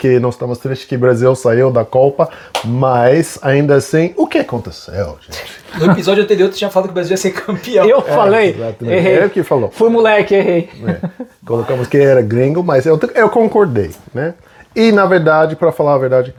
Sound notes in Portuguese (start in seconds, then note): 10.2 risadas